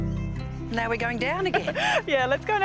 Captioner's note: laughs